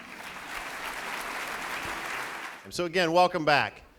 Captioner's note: applauding